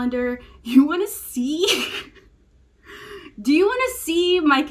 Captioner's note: laughs